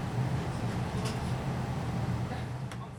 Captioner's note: train noises fade out